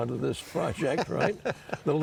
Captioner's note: chuckles